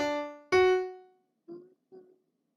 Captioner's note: humming